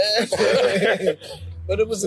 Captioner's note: everyone laughing